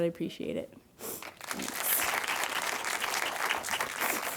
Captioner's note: audience applauding